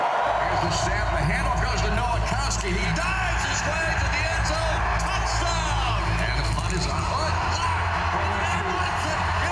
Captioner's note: cheers